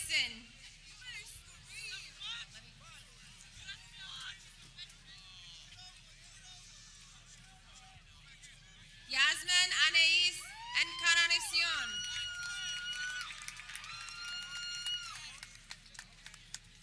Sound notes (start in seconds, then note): 12.5 people cheering